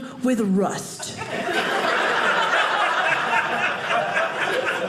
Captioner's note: audience laughing